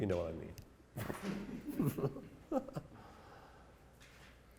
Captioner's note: audience chuckles